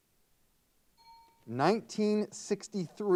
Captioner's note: timer bell dings